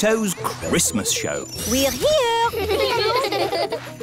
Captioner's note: children giggling